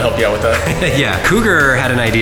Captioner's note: laughing